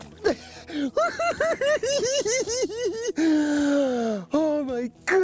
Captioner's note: cackling